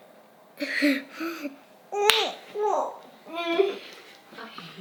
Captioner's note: vocalizing